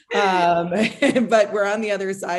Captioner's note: chuckles